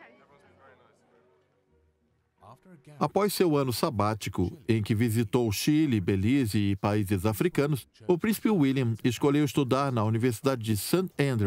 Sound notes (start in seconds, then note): 2.3 voiceover